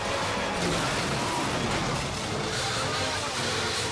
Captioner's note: car crashing; car skidding